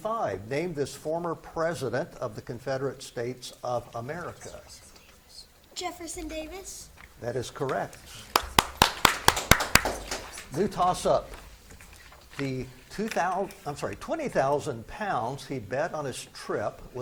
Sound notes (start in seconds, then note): 8.2 spectators clap